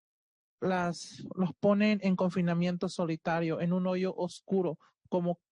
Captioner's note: speaking Spanish